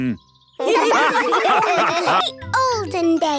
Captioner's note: all laughing